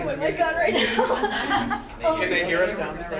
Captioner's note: laughter